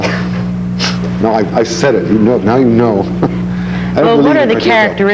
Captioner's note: laughs